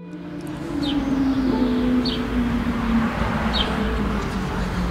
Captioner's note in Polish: dźwięki aut i ćwierkanie ptaków